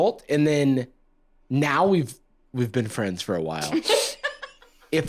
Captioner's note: laughs